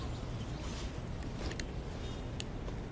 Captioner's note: none